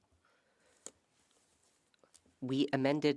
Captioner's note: speaking French